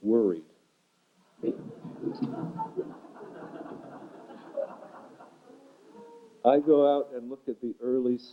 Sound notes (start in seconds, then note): 1.4 laughter